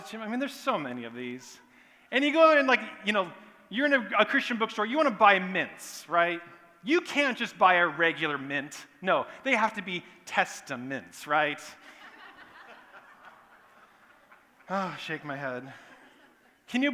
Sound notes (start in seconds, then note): 11.8 laughter; 14.5 sigh